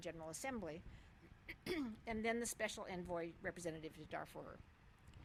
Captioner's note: cough